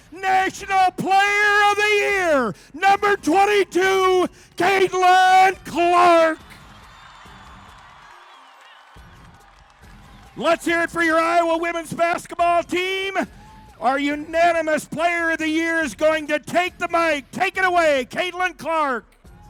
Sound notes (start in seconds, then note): 6.6 crowd cheering